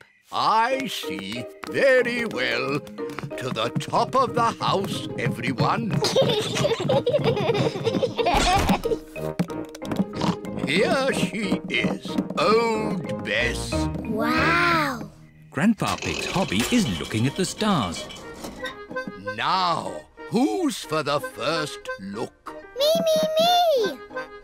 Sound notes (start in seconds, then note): 5.9 peppa and george giggling; 10.1 oinks